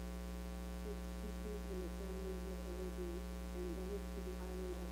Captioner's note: voice speaks on computer